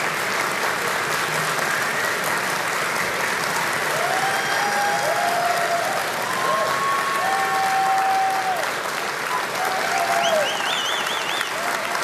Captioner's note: applause